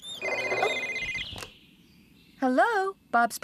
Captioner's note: cell Phone Rings